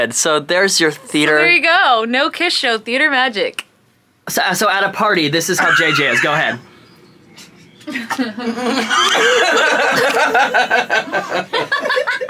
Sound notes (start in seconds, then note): 7.8 group laughing